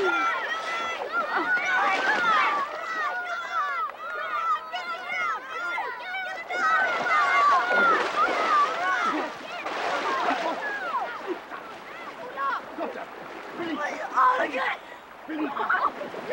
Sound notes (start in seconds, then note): 2.1 kids screaming; 2.1 water splashing